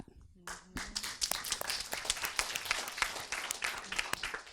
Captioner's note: audience applauds